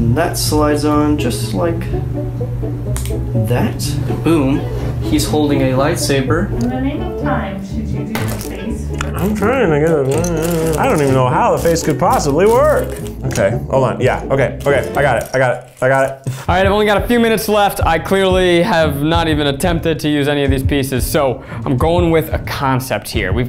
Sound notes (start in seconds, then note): 2.9 piece clicking